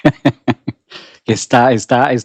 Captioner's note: laughs